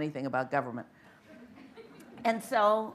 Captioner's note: light laughter